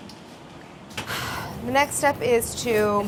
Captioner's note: sighing